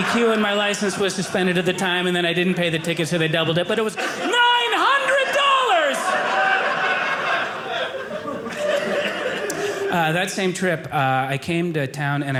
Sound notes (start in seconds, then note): 6.1 audience laughing